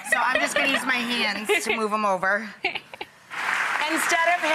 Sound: clapping

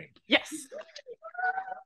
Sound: AUDIENCE applauds

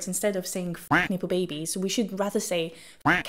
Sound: duck quacking; duck quacking

